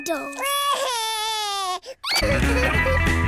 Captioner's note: cries